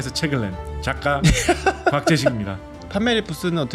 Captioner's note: laughter